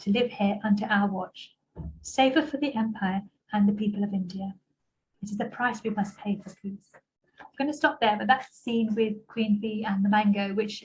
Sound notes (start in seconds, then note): none